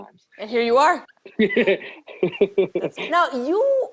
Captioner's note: laughing